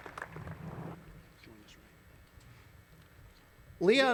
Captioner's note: applause